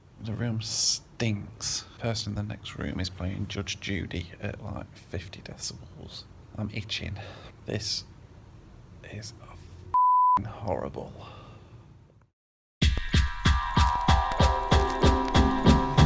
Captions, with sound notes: - The room stinks, the person in the next room is playing Judge Judy at 50 decibels, I'm itchin'. This is (beeps) horrible. (upbeat jazz music)